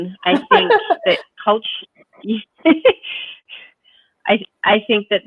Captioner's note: chuckles; chuckles